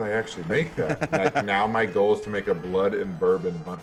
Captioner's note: laugh